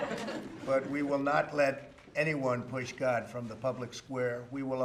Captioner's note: laughter